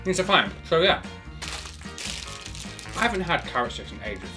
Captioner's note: bag crumples